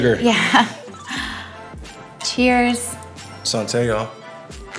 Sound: laughs

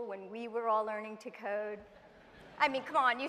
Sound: laughter

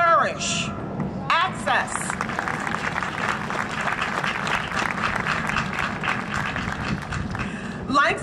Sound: applause

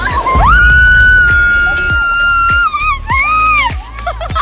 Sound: screams

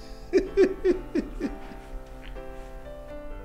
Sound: laughs

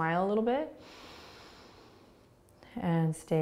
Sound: inhaling

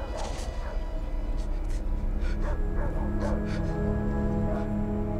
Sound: tense droning music; dogs barking in background

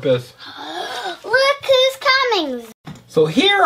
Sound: gasps

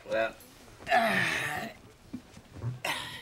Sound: sighs

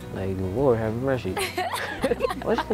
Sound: laughter

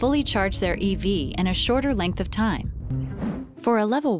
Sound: air whooshing

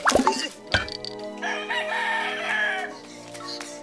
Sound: rooster crows

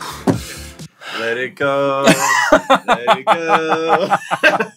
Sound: laughs

